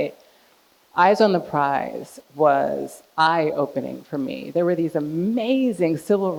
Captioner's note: none